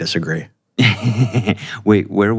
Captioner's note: laughs